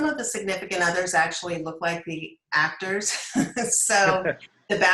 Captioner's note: laughs